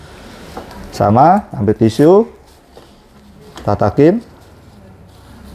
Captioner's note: damper noise; tissues noise